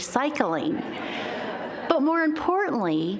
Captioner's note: audience laughing